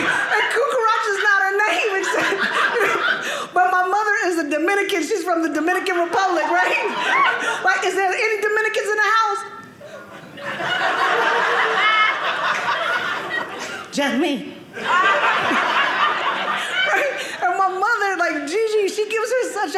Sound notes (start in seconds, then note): 1.7 audience laughing; 9.9 audience laughing